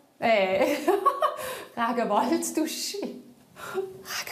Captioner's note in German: Flüsternd